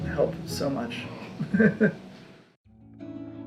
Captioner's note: laughing